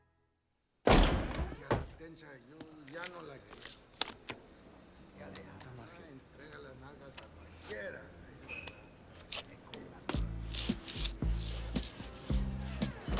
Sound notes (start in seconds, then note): 0.8 door slams open; 2.1 men chattering in Spanish